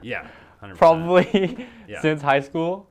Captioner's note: laughs